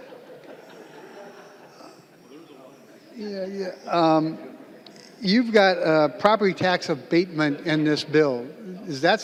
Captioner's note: lauging